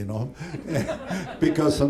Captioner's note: laughter